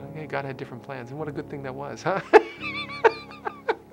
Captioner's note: laughter